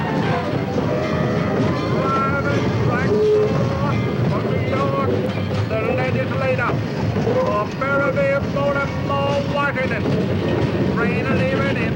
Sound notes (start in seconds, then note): 4.5 train conductor announces stop